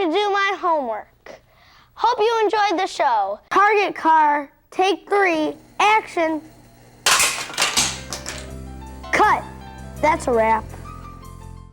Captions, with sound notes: Time to do my homework. Hope you enjoyed the show. Target Car, take three. Action! (loud crash) Cut. That's a wrap.